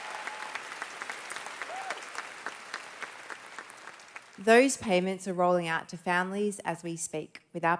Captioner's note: cheers and Applause